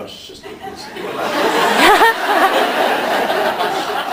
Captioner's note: laughs